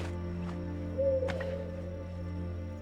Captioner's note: owl hooting